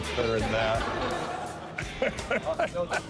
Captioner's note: laughing